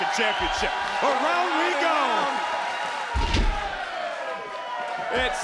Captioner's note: crowd cheering